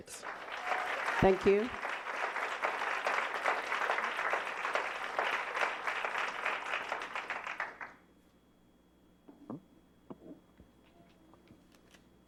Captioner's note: applause